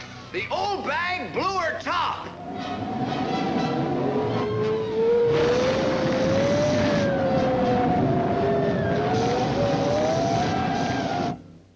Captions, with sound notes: In fact the old bag blew her top [Loud Storm and Wind Sounds]